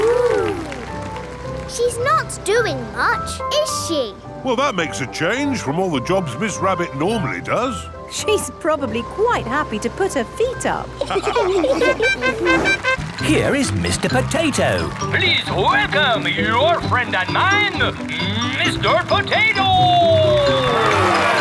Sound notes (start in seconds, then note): 11.0 all laughing; 11.8 horn tooting; 21.2 cheering